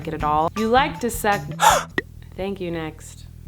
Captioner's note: gasp